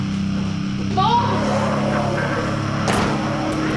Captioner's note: demonic growls and snarls; door slams